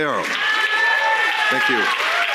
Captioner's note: audience cheering